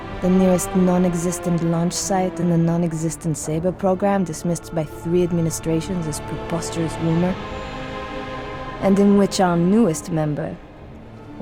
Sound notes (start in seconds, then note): none